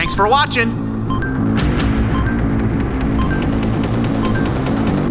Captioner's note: arcade beep dinging